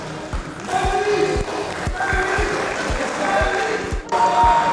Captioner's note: cheering